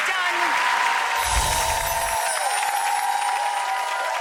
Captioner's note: applause